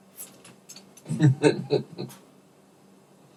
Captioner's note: chuckles